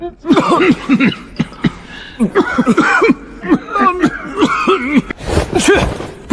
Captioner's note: cough, cough, cough